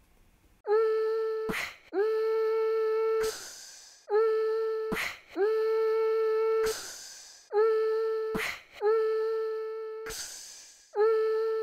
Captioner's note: slow beatboxing